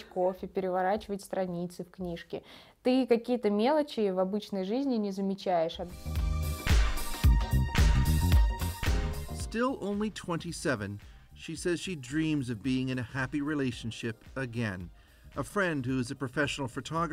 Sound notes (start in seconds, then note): 3.3 speaking russian